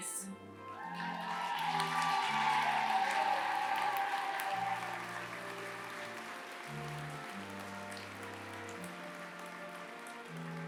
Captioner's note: applause